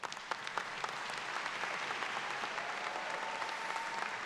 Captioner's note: audience claps